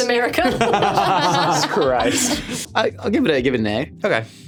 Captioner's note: all laughing